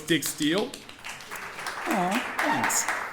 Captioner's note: audience applauding